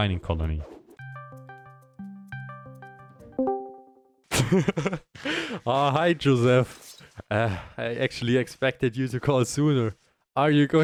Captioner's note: insert discord call sound + pick up